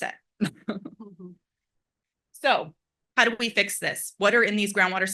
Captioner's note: laugh